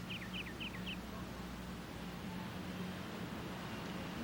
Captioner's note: birds chirping